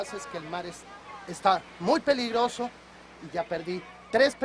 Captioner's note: speaks in foreign language